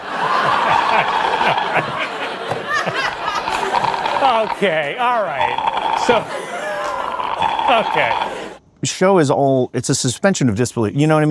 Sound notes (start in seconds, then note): 0.0 audience laughs; 2.8 slug slurps